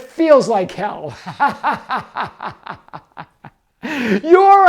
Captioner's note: laughs